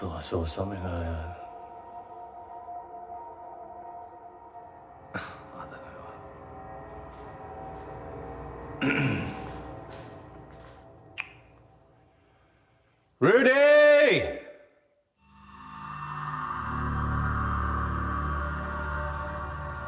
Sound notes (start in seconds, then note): 8.8 Danny clears throat; 15.3 light dramatic music